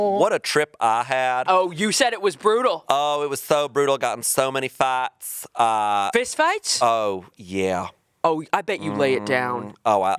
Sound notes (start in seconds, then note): none